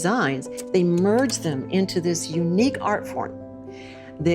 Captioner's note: slide projector clicks